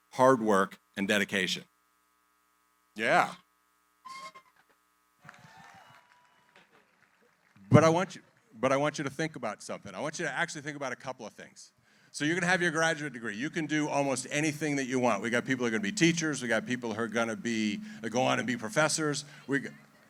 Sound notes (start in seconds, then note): 5.2 cheering